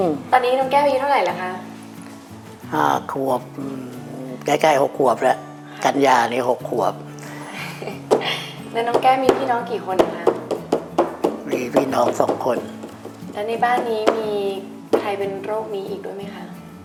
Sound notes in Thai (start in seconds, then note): 7.0 หัวเราะ; 10.4 เคาะโต๊ะ